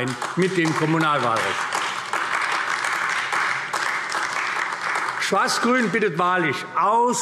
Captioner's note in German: Beifall AfD